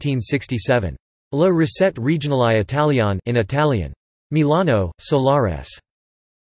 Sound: in Italian

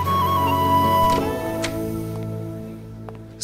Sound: door opens

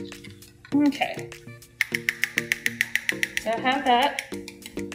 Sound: spoon banging

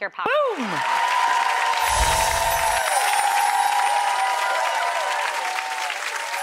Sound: audience applauding and cheering

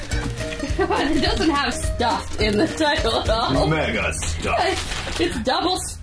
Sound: laughs

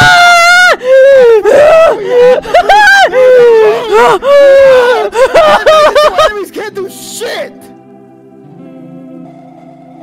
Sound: hyperventilating

